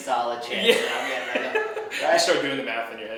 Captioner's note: laughing